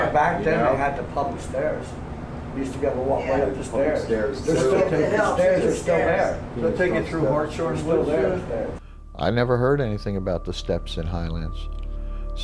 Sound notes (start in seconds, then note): 7.1 overlapping chatter